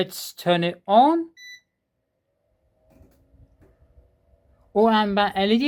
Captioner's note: fan noise